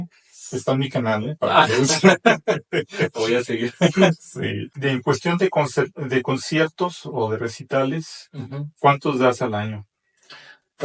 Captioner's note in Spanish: risas